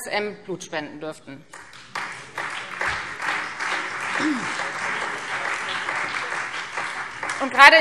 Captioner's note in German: Beifall Freie Demokraten, BÜNDNIS 90/DIE GRÜNEN und vereinzelt DIE LINKE